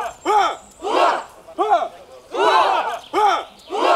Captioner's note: battle cries